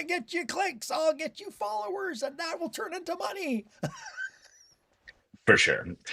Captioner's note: laughter